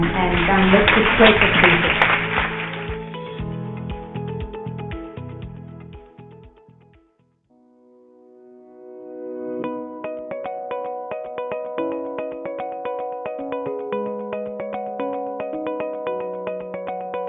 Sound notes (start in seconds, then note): 1.6 audience clapping; 2.8 upbeat music